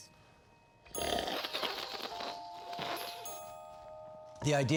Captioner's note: slurping